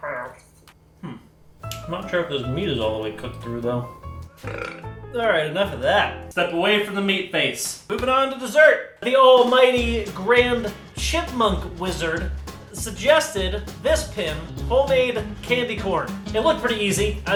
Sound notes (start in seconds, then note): 4.3 burps